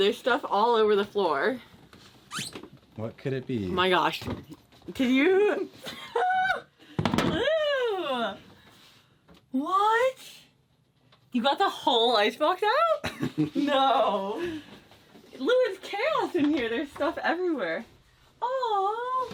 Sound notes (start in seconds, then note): 5.9 squeals excitedly